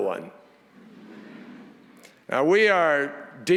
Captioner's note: audience chuckles